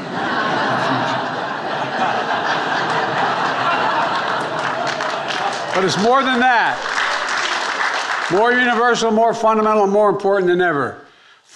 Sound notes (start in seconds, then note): 0.0 attendees laughing; 7.9 attendees applauding